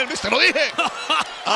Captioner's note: laugh